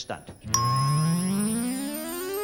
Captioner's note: bell dings; buzzing